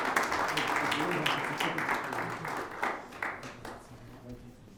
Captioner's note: audience applauds